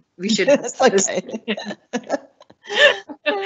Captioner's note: laughing